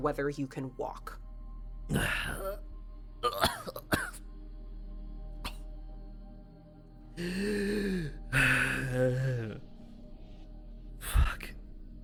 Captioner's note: coughs